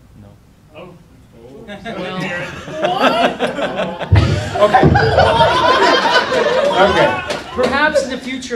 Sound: laughter

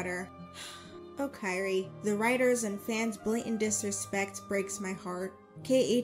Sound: sighs

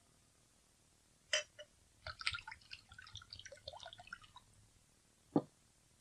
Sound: SFX: drink served

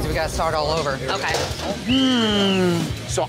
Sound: whistle

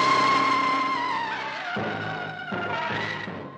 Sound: screams

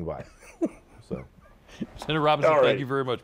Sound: laughter

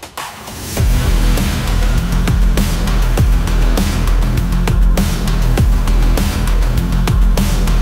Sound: boom

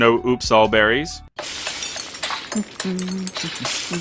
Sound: Breath of the Wild cooking noise

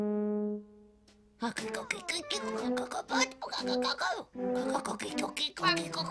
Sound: chicken speaks in gibberish

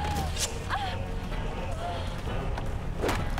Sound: screaming

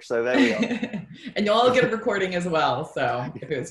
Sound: laughs

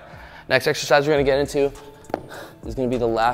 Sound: sighs

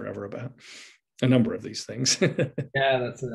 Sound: laughs

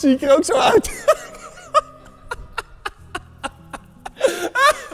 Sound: laughs

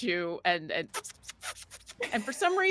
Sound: Neb chattering

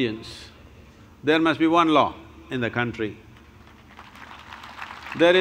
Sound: applause

